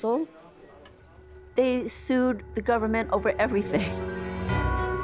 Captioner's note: chuckling